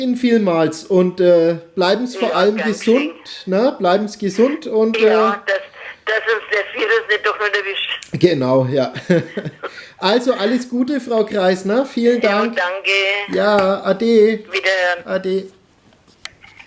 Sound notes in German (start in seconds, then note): 8.9 lacht